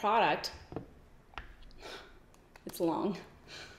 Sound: sighs

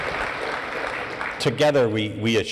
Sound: applause

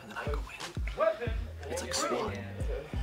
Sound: whispers

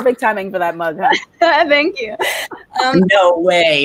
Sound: laughs

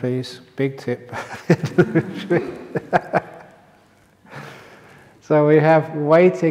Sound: laughter

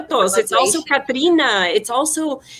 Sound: speaking foreign language

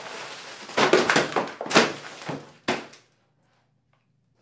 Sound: items fall to the floor

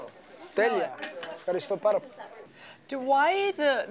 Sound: speaking Greek

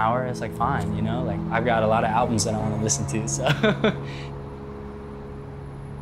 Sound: laugh

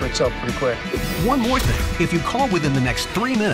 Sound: voiceover

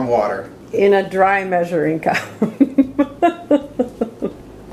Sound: laughs

